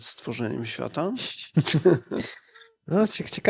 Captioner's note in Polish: śmiech